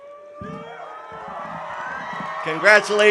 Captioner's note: audience cheering